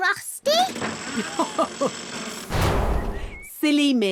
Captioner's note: chuckles